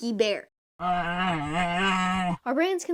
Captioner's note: indignant bear noises